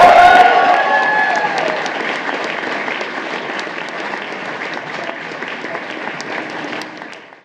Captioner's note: applause